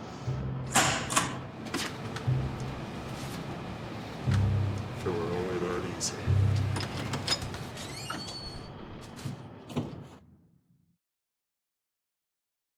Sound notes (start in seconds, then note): 0.0 dramatic music; 1.0 time clock punching